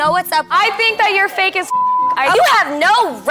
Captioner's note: beep